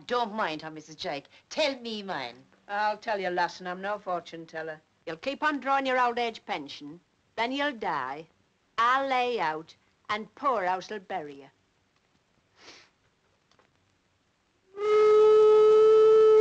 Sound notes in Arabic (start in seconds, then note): 12.6 صوت البوق